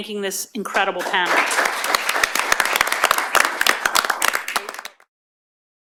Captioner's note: applause